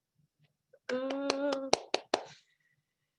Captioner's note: clapping